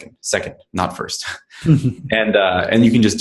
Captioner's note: laughs